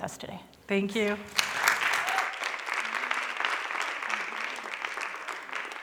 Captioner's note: applause